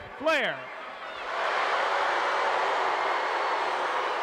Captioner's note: audience shouting